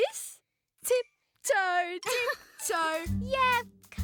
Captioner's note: Twirl chuckles